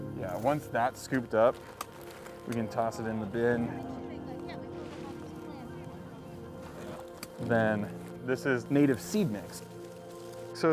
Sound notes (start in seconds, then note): 3.9 volunteers chatter